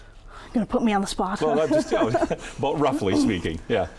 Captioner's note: laughs